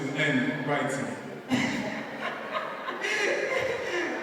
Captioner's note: sudden catatonic laughter in conceit